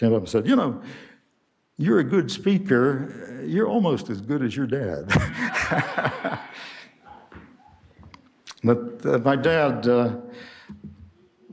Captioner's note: laughter